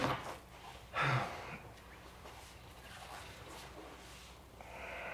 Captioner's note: Curtis exhales